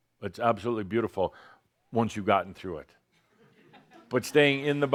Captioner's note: some chuckles